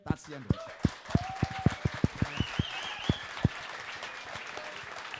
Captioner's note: cheering and applauding